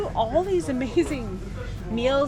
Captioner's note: laughs